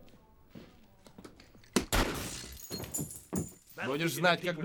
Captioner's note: gunshot, glass stters